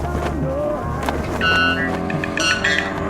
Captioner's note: eerie bird call